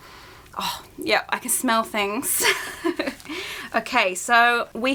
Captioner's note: laughs